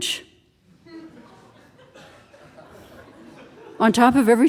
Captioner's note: audience laughing